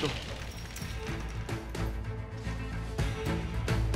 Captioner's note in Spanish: ruido de la reja